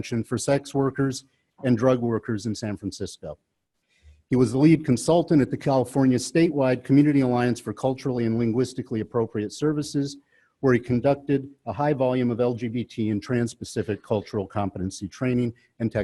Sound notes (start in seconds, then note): none